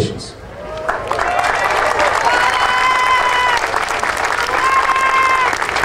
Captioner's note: audience cheering and applauding